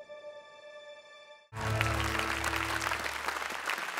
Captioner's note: applause